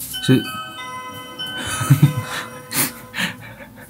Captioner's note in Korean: 초인종 한번 우렁찬